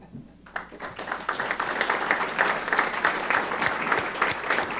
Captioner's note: applause